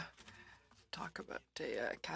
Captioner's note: speaking french